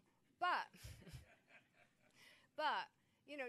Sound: man laughing

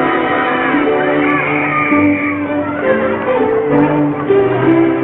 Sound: whistle tweeting

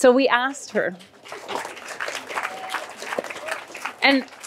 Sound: applause

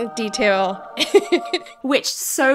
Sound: choral music; laughing

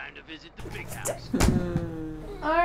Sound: game audio; thump

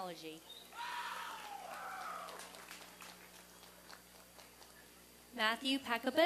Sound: applause and cheering

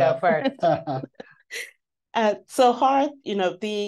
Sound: panelists chuckling

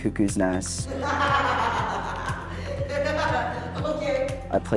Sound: laughing

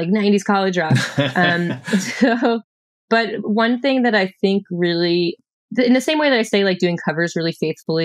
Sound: laughter

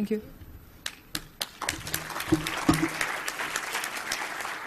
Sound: applause

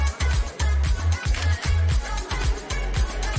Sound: camera shutter

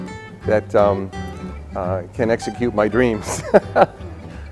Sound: laughing

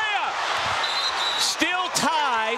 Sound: whistle blows

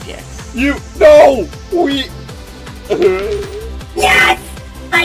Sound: coin clinks

